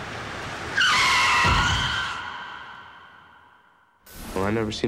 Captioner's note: tires screeching